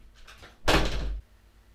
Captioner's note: door slam